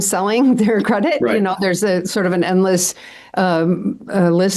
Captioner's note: laughs